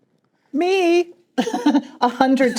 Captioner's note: chuckling